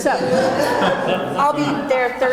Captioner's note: audience laughing